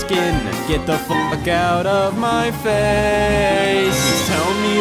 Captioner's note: beep